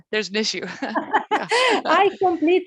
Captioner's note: laughs